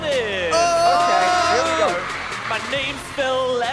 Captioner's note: both cheering